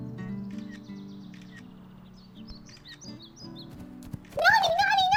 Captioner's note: phone Camera Clicks